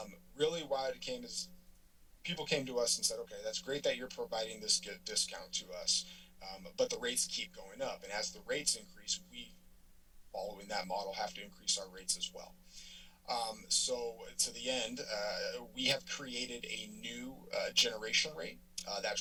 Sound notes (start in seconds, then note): none